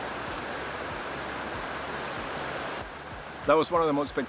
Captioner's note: birds singing